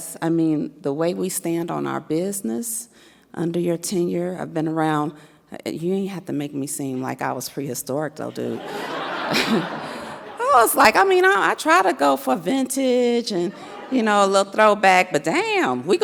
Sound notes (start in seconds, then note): 8.5 audience laughs; 8.6 chuckles